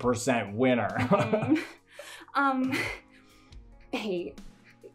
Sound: laughs

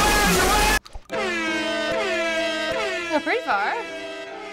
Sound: sad music; blaring

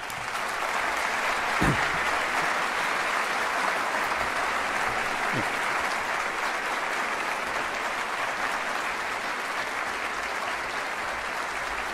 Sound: applause

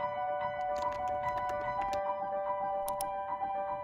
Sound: upbeat music; keyboard typing; mouse clicking

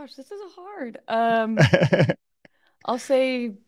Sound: chuckling

